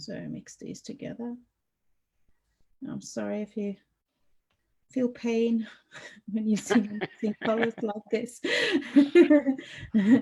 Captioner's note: laughs